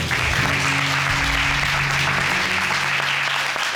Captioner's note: audience applauding